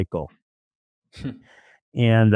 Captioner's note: laughs